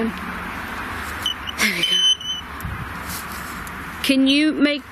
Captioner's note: device chirps